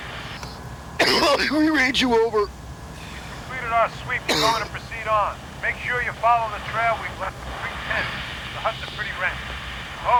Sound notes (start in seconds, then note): 1.2 coughs